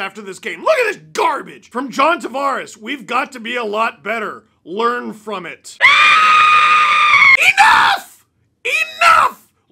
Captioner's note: screaming